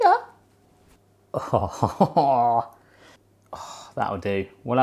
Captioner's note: laughing